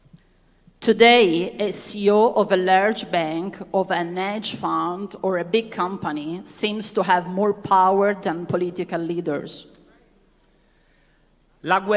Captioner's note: speaking non-english language